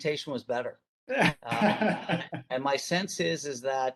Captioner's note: laughing